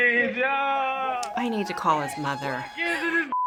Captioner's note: in video: whooping; tsks